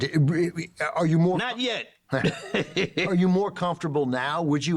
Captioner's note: laughing